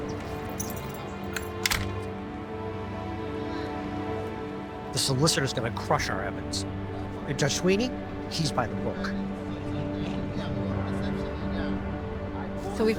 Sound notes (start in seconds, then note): 1.4 door clicking; 9.5 gentle music